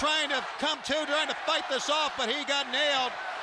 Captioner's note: crowd cheering